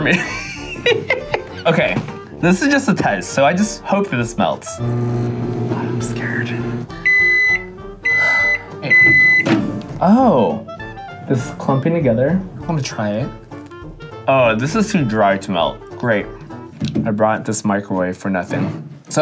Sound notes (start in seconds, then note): 0.0 laughing; 4.7 microwave buzzing; 6.3 microwave beeping